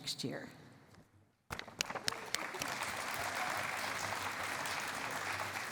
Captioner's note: applause